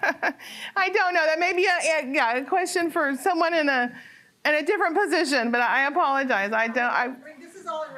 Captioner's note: laughter